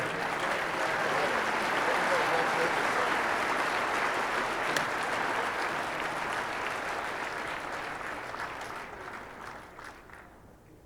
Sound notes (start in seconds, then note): 0.1 audience applauding